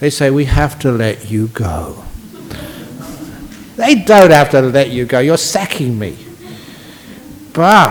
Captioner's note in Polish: Laughs